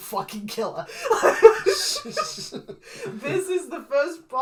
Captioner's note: laugh